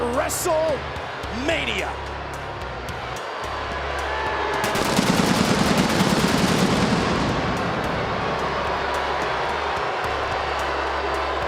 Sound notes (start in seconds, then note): 4.4 audience booing; 4.7 fireworks booming